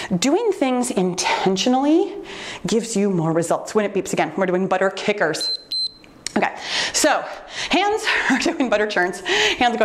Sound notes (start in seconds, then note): 5.4 timer beeps